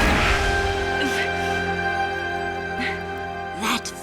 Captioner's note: grunting